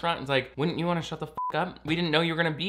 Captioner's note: beep